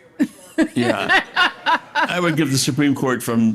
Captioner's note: audience laughing